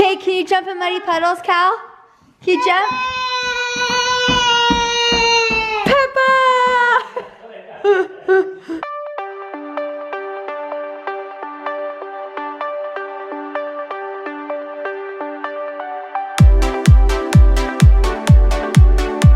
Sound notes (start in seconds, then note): 3.8 shouts; 9.4 upbeat music